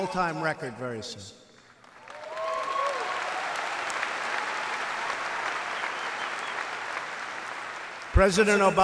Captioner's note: applause